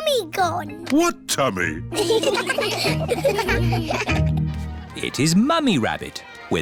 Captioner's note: laughter